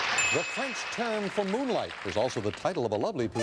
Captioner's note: beeping